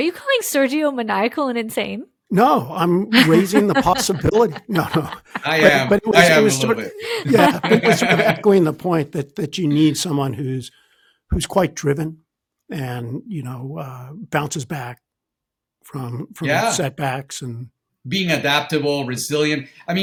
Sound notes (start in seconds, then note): 5.3 laughing; 8.6 all laughing